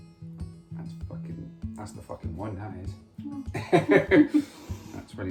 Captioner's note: laughs